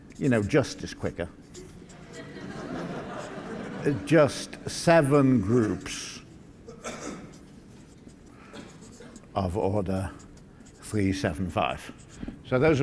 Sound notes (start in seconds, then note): 1.9 laughter